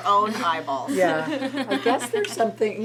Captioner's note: laughs